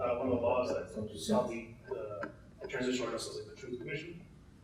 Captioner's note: speaking in Spanish